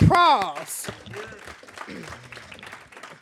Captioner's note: applause